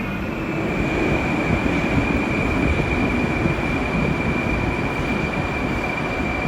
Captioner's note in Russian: прибытие поезда на станцию